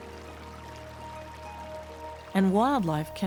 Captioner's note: stream running